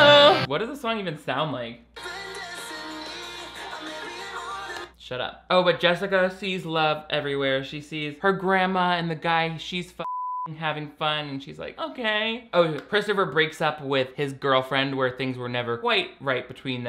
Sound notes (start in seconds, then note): 10.0 beep